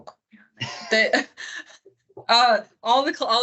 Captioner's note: both speakers laugh